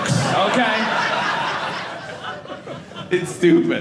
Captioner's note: audience laughing